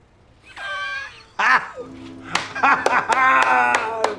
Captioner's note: laughing; clapping